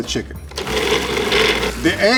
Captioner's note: blender whirring